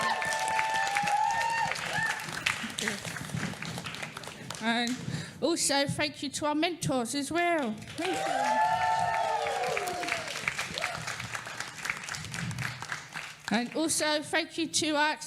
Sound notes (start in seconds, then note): 11.7 cheering & applause